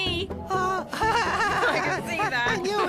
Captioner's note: laughter